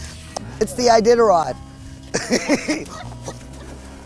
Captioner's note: laughs